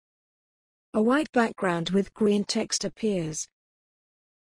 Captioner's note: voiceover